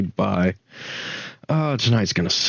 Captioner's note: sigh